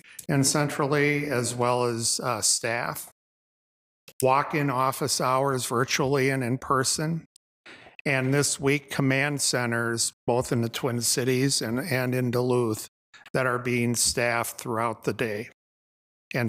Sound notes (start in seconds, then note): none